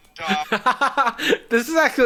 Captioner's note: laughs